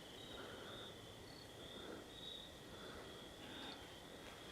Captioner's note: insects chirping